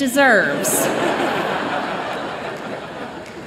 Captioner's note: laughter